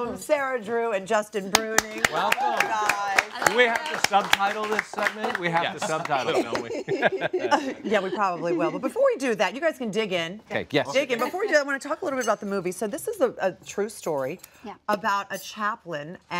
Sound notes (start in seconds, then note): 1.6 applause